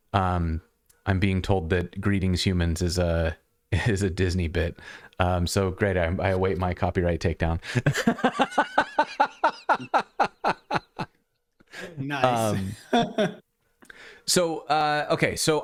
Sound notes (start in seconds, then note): 7.7 laughter